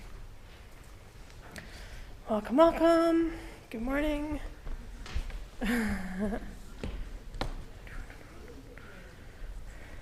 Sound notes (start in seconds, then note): 2.0 singsong; 5.6 laughs; 8.0 silence